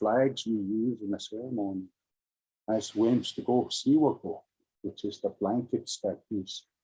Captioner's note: speaking in Indigeous language